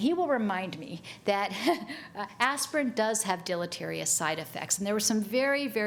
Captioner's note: chuckles